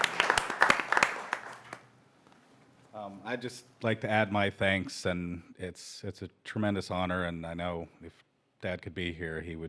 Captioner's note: applause